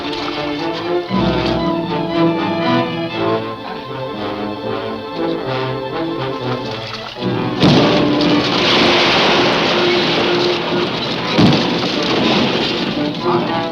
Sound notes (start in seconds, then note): 0.2 splashing; 7.7 thudding; 8.9 splashing